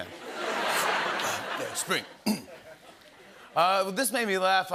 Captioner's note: laughter; clears throat